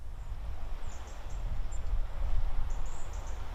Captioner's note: birdsong